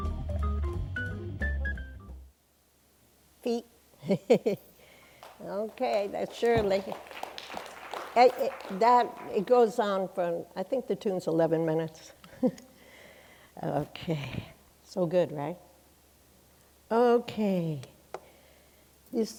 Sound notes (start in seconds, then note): 4.0 chuckles; 6.7 applause